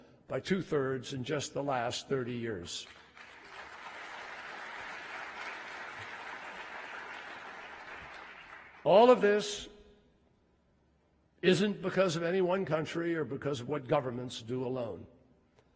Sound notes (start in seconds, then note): 6.7 applause